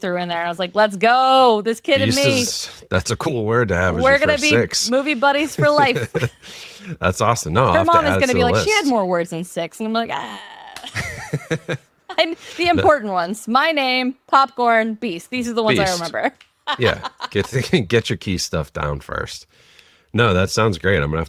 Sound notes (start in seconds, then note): 10.8 laughs